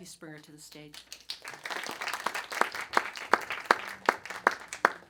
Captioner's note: audience clapping